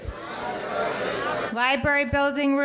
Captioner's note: audience clamoring